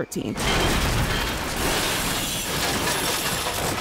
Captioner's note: crash